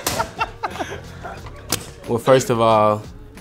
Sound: laughter

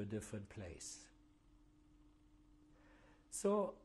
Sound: pauses for 3 seconds

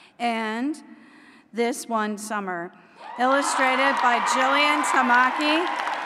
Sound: applause

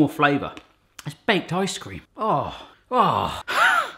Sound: groans

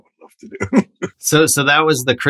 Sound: laughter

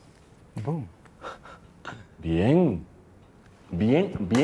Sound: laughs

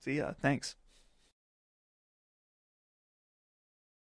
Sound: silence

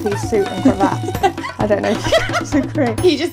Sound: laughing

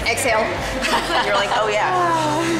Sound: girls laughing

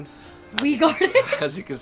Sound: laughs

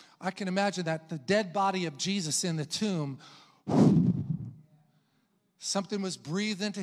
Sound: exhales

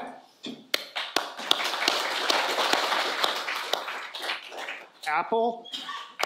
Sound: audience applauding

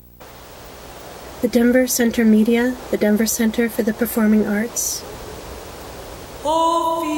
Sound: wind

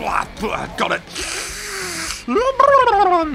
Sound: swallowing

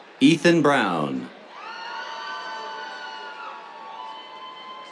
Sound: cheers

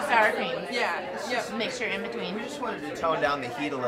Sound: voiceover

